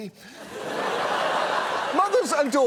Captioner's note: audience laughs